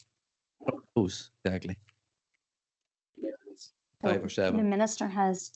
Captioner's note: audio distorts 57.12; audio distorts 57.20